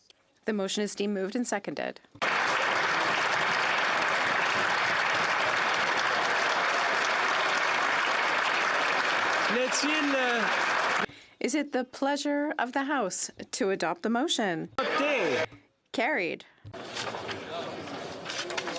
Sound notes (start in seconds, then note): 5.4 some Applause